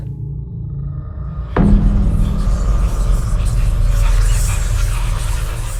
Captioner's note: ghostly whispering